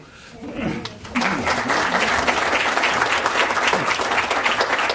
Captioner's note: applause